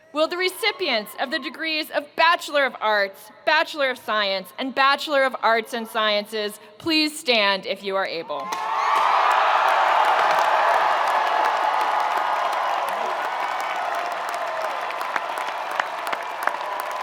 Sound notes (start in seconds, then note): 8.5 audience cheering and applauding